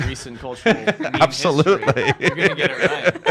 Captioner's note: laughs